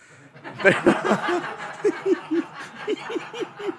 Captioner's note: laughter